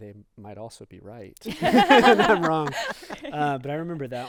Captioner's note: group laughing